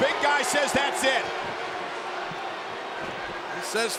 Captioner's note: audience chattering